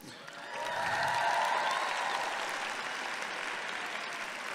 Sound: audience applauding

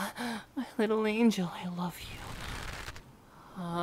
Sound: rope tightens

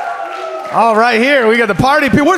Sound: audience cheers

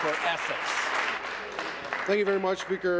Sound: applause

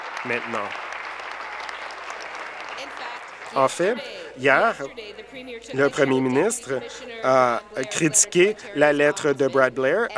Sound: applause

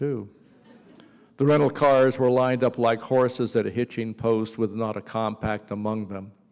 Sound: laughter

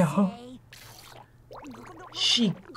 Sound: laughs; gargles

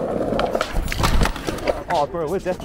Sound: skateboard clattering; skateboard rolling

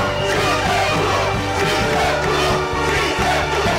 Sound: chanting

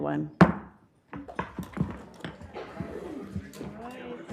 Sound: gavel knocking; group chatting

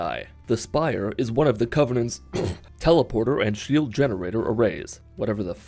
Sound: clear throat

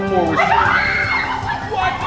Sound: victory music; screaming

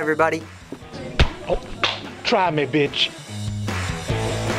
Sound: whump; punk rock music

